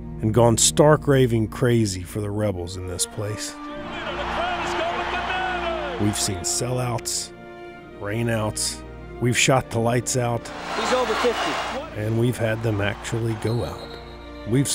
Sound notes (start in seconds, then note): 4.2 voiceover; 10.5 cheering; 10.8 voiceover